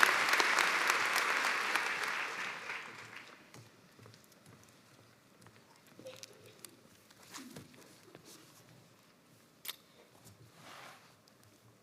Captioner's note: cheers and applause